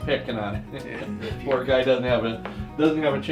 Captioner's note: laughs